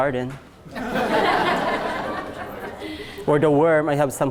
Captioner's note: class laughs